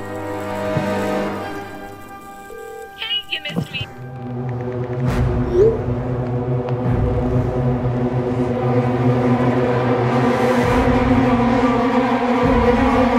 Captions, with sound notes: [dialing] [voicemail] Hey, you missed me- [texting]